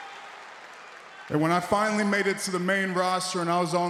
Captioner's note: applause